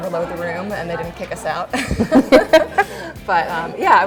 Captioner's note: laughs